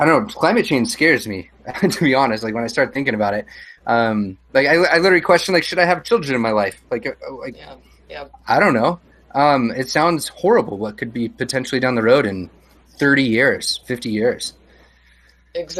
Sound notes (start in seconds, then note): 1.6 laughs; 7.1 stutters